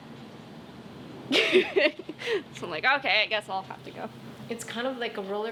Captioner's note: laughs